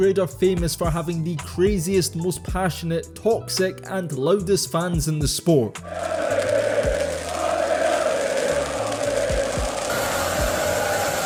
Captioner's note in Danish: Bifald